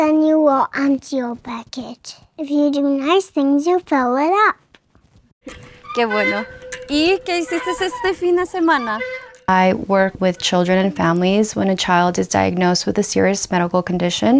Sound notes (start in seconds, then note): 5.9 off screen spanish speaker